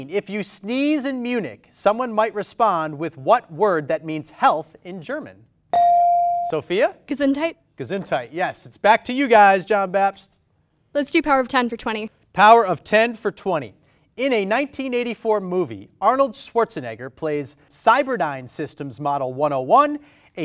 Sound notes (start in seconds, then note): 5.7 ding